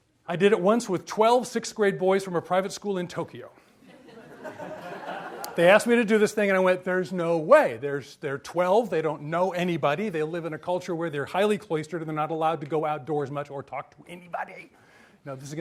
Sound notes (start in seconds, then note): 3.8 audience laughs